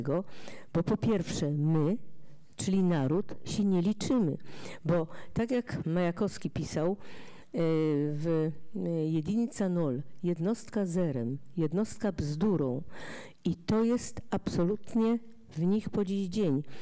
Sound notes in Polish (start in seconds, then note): 7.8 fraza po rosyjsku